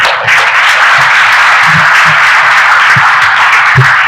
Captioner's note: applauding